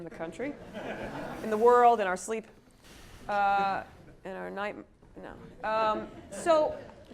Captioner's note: laugh